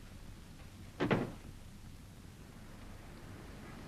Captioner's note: door thudding